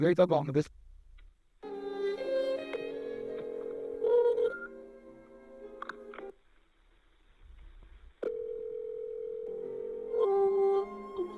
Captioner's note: phone ringing